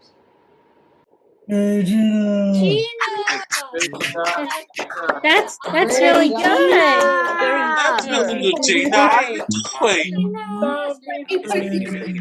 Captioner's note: applause